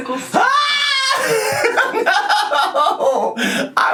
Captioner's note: yells and laughs